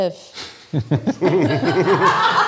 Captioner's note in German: Lachen